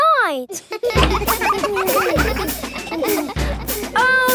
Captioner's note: children laughing